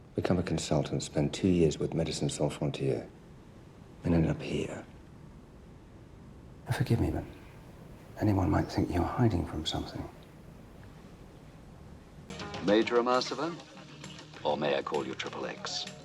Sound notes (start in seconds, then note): none